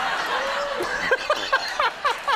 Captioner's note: audience laughing; everyone laughing